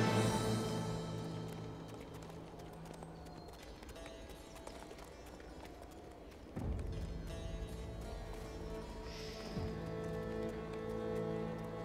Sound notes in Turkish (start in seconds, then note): 0.0 Müzik - Duygusal; 0.0 At nalı sesi; 11.1 Müzik - Yaylılar ve dombra